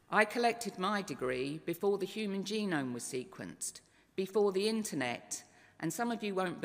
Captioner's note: none